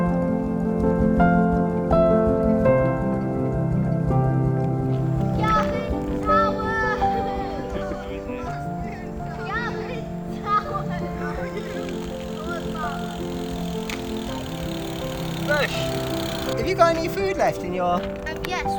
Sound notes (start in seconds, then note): 0.3 upbeat instrumental; 13.7 laughs